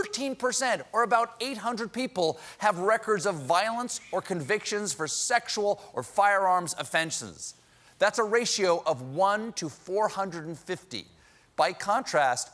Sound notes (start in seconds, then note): none